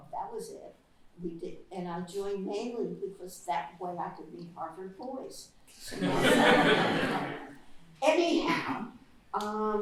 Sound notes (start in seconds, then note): 5.9 laughter